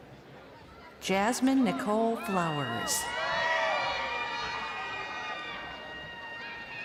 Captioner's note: crowd cheering